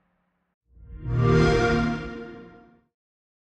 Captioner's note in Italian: xbox sound